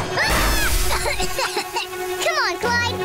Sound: coughing

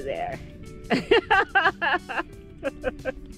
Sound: laughter

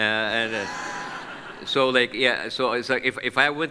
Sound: audience laughs

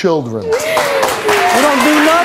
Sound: audience applause

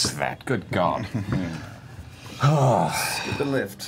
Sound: laughs

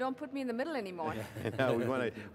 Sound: laughter

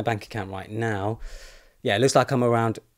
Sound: deeply inhales

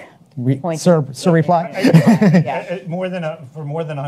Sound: chuckles

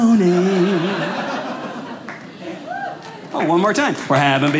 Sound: audience laughing

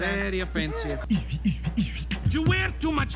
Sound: beatboxing

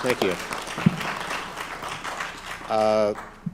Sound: applause

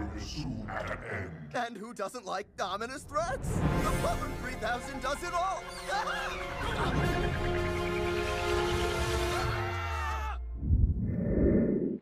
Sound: screams

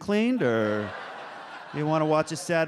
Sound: audience laughs

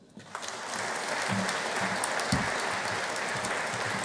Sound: audience applauding

